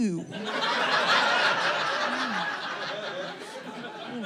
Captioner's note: audience laughing